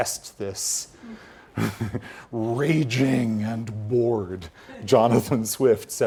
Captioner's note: laugh